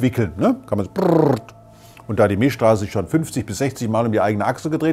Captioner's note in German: Drehgeräusch